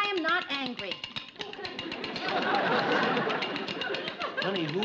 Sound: clanging

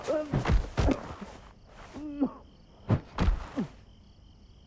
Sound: Cam yelling and grunting; sounds of punching

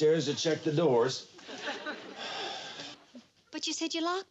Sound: audience laughs

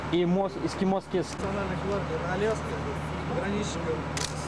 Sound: russian speech

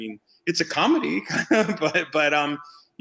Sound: laughs

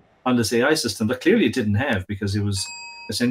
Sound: bell dings

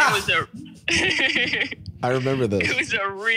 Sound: laughs

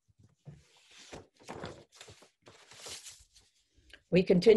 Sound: silence

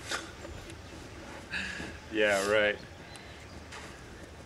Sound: scoffs

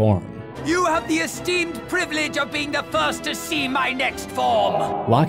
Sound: Dart with Frieza voice

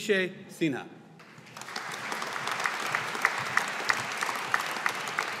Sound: audience applauding

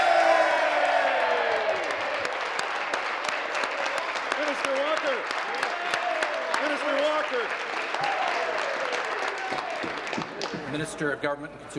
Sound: applause; cheering

